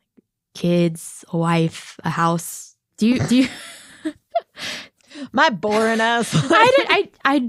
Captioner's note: laughs